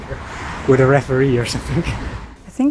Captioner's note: chuckles